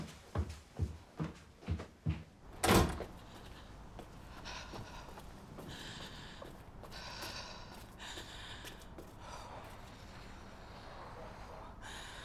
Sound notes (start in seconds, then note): 2.5 door closes; 4.4 breathing deeply